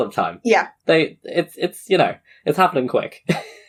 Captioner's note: laughs